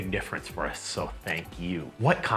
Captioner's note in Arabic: نقرات الماوس